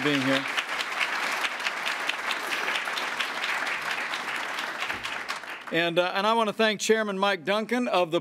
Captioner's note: applause